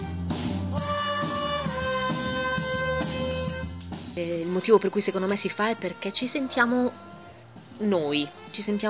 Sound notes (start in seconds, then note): 0.1 cheerful music; 4.6 speaking foreign language